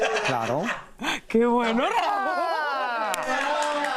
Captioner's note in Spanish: risas